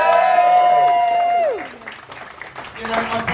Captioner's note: more laughter, applause & whooping